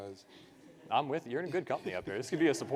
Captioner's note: participants laugh